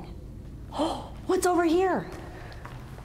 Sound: gasping

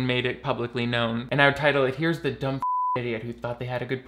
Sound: beep

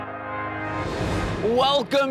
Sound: air whooshing

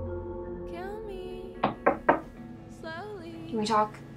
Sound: quiet knocking

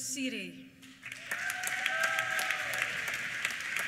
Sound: applause; cheers

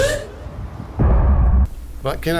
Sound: thud

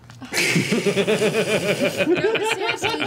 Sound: all laugh

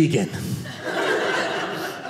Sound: audience laughing

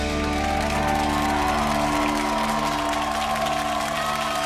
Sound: upbeat music; audience cheering

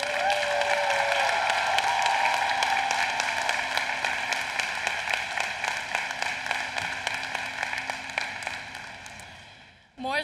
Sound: applause

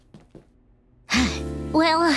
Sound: sighing

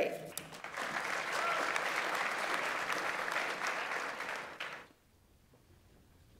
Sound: audience applauds; audience member cheers

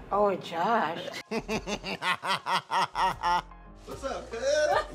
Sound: host laughing

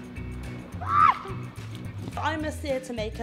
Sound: screams

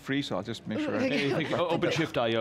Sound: all laugh

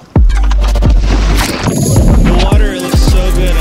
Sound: water splashing

